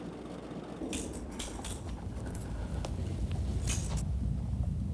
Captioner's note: switchblade clanking